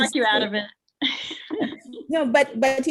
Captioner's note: laughs